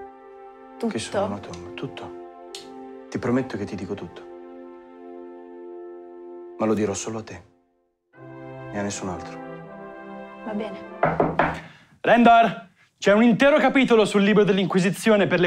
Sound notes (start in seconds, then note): 11.0 knocks on door